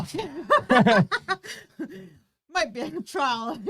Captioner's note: both laughing